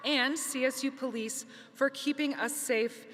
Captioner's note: none